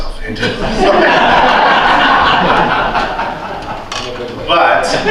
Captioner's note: laughter